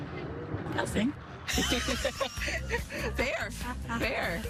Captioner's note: laughter